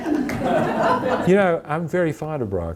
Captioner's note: audience laughing